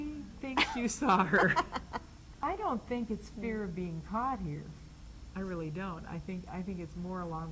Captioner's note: laughs